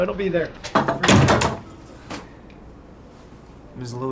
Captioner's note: laughing; door slams